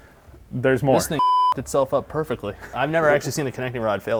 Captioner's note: beep